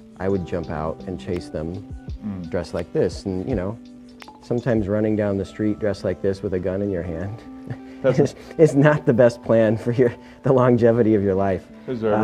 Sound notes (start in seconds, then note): 7.6 laughing